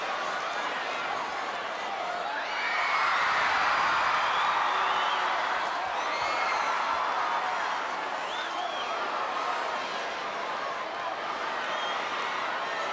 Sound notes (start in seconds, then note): 2.7 audience cheering